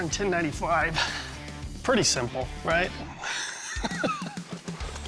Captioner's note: laughs